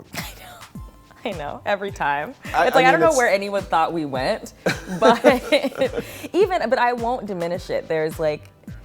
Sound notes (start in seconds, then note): 2.4 laughs